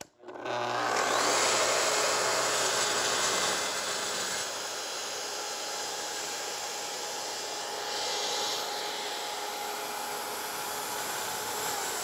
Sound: saw buzzing

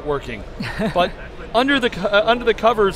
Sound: laughs

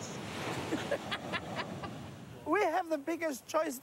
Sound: laughter

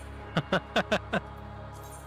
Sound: laughing

